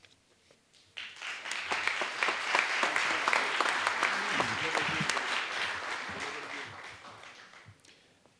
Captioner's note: applause